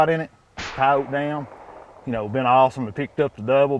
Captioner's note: gun fires